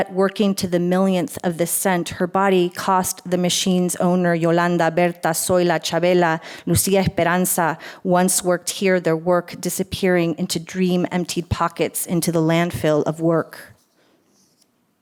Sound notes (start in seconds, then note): 6.7 foreign language